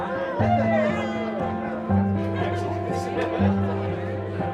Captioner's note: students cheering